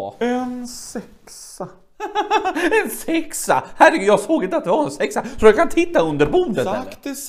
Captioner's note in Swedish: skrattar